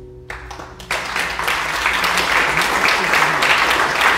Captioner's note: audience clapping